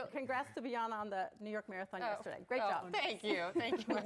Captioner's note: laughter